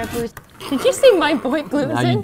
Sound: laughs

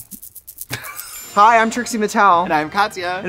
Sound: twinkling; laughing

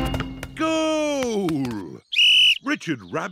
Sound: blows whistle

